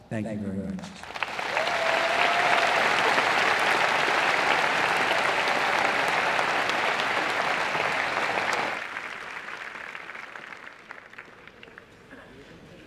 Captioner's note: applause